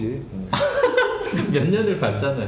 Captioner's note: laughing